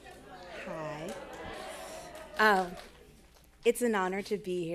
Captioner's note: attendees chattering